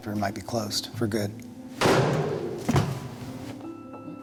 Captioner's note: bang